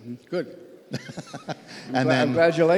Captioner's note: laughs